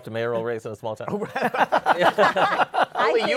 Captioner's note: laughter